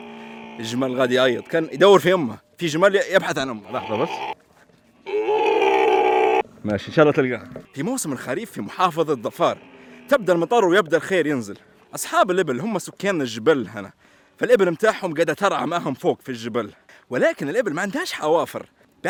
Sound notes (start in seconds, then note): 5.0 camel bleating